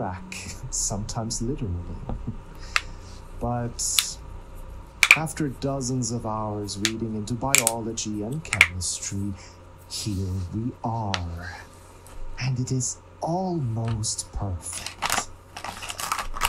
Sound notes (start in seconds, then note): 2.6 cracks knuckles; 7.5 cracks knuckles